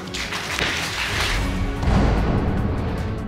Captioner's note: audience applauding